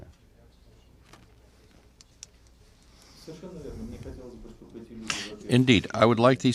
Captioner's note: through translator